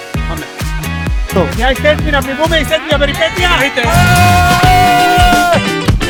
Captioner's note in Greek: ουρλιαχτό